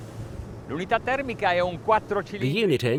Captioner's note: speaking foreign language